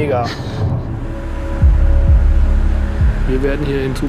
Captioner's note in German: Dumpfe Klänge